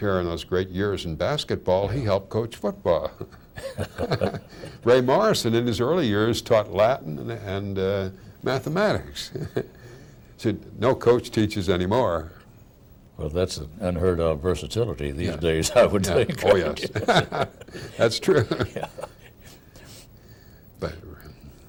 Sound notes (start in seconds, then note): 15.7 laughing